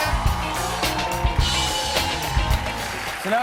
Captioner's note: cheers and applause